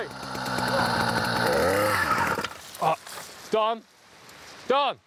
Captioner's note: motor dies